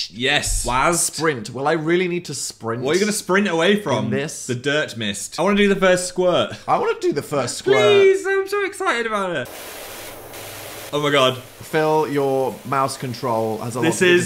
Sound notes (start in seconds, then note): 9.4 liquid hissing